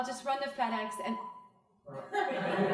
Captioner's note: phone beeps; crowd laughing